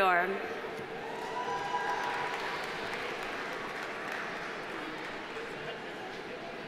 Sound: audience cheering; audience applauding

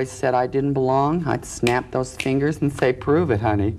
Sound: snapping fingers

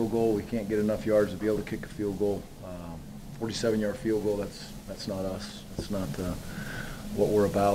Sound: none

